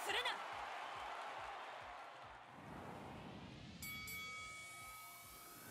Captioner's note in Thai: ปรบมือ